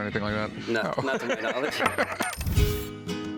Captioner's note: laughter